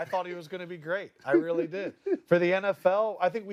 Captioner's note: laughter